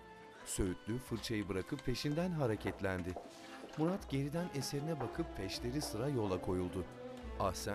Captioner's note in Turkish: Ayak sesi